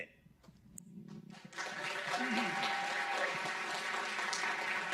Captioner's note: audience cheering